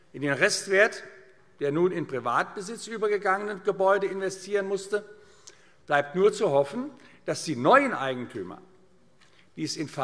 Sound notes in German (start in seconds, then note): none